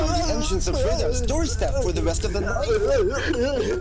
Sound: seizure sounds

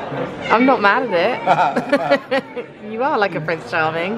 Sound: both laugh

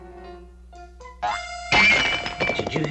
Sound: clangs

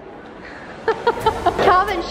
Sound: laughs

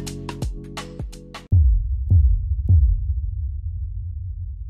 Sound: audio booming

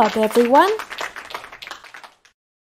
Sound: aplausos

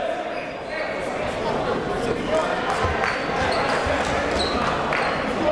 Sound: crowd talking

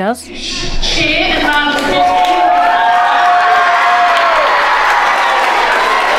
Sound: overlapping chattering; children applauding

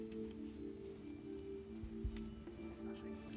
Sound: whispering

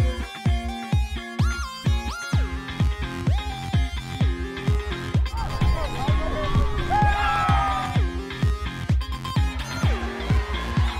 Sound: cheers & applause

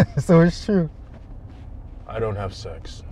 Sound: laughing

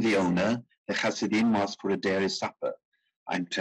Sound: speaking in foreign language

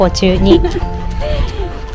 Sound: laughs

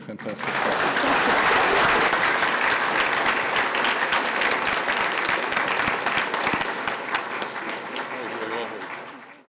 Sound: applause

